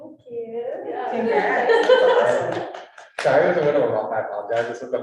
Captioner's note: women laughing